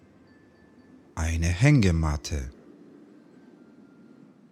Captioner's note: german